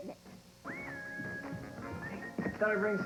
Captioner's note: footsteps on the stairs